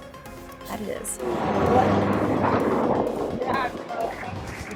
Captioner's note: car drifting